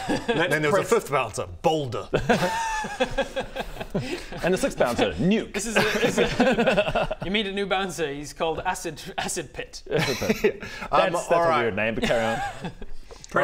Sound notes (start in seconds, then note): 2.2 innocent laugh